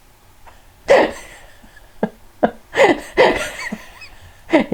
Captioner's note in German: lacht